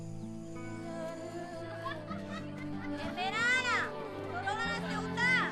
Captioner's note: children laughing